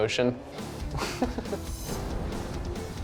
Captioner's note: laughs